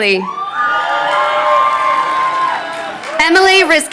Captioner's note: crowd cheering